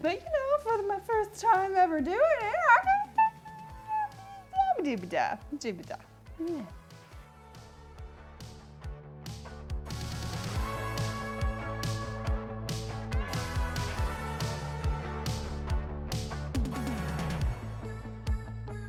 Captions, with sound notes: But you know, for my first time ever doing it (random mouth noises) (upbeat music)